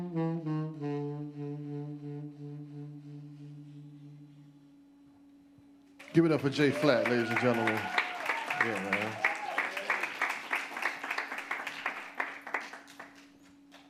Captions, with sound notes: Give it up for Jay Flat, ladies and gentlemen. (audience applauds) Yeah, man.